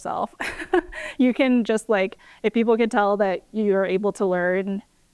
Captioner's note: laughter